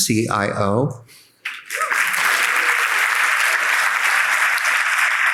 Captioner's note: audience applauding